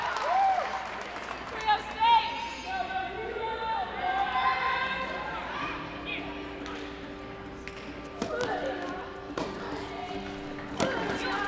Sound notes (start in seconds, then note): 2.5 cheering; 5.8 gentle music